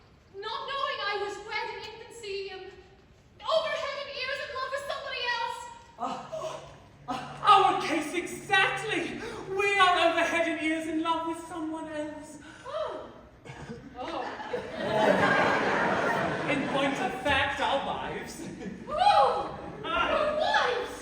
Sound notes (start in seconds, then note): 5.6 MARCO & GIUSEPPE gasp with relief; 14.4 raucous, heteronormative laughter